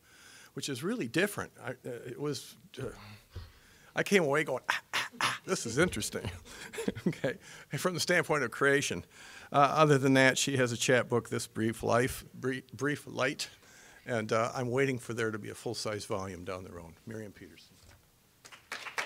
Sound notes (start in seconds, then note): 4.9 all laughing